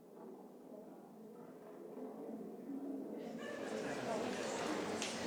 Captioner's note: laughter